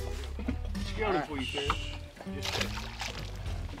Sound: water splashes

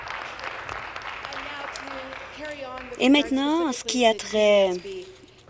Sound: applause

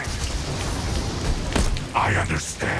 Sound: heavy raining

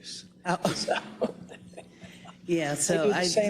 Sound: laugh

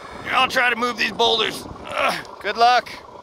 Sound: groans

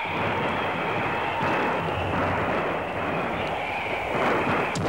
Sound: gun firing

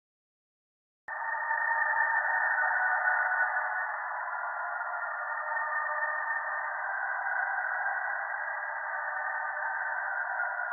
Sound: hell ambience

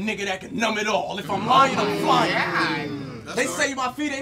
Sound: audience yells

